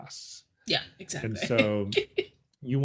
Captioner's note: chuckles